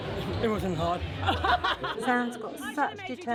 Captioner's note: laughing